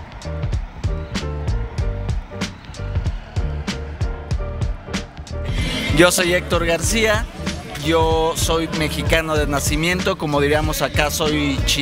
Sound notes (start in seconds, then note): 6.3 speaking in a foreign language